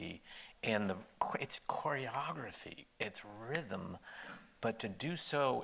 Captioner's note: snaps